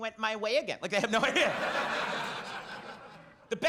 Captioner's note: audience laughs